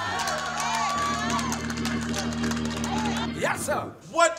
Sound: clapping and cheering

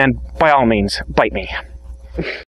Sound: snorts

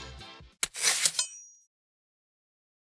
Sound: knives slicing

